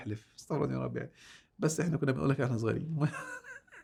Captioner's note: laughs!